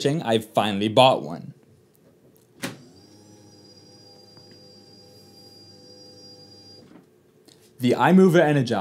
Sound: desk whirring

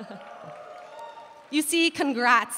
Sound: audience cheering

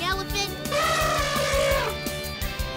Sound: snorting

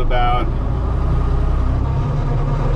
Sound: engine humming; engine revving

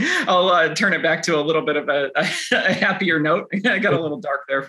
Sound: chuckles

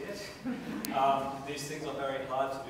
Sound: laughter

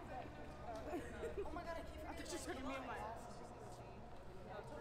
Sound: team chattering

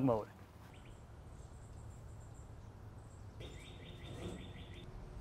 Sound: birds chirping

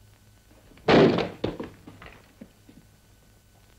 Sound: door bursts open

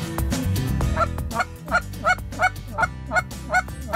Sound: squawking

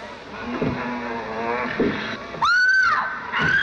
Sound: monster groaning; Elizabeth screams

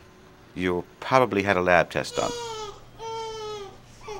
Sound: baby crying

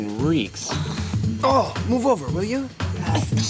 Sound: Cody groans; all groaning

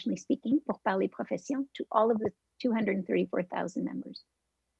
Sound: French

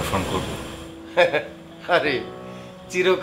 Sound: man chuckles

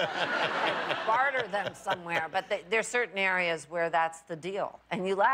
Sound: laughter

